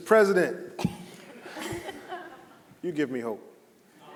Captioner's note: panelists laughing; audience laughing